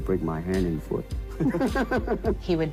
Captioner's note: both chuckling